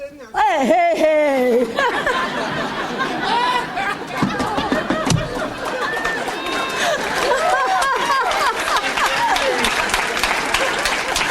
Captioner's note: audience applauds